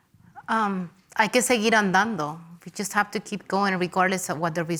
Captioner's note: speaks Spanish